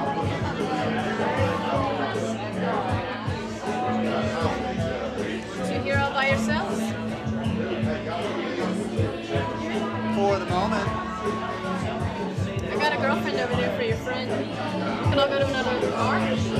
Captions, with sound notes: (people chattering) (upbeat music) - You two here all by yourselves? - For the moment. - I gotta girlfriend over there for your friend. We can all go to another bar.